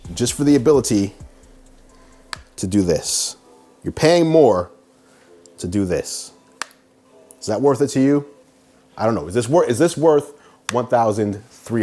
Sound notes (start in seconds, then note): 2.2 snaps; 6.6 snaps